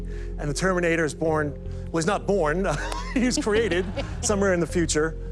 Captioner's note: laughs